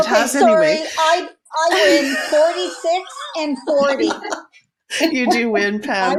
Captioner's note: laughing